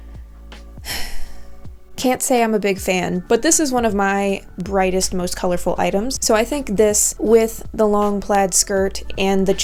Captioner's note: le sigh